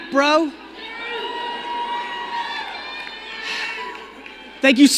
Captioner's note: crowd cheering